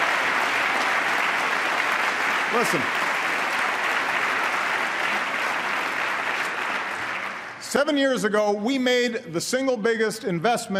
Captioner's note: applause